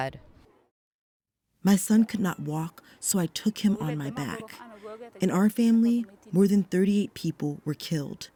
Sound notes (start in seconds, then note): 2.2 through translator